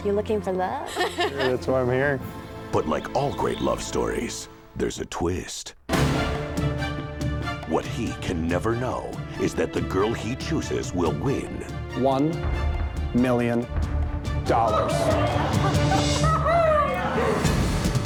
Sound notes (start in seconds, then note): 6.2 energetic orchestral music; 14.6 girls hooting